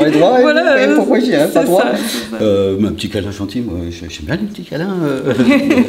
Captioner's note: laughter